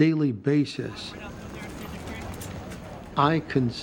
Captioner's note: talking in background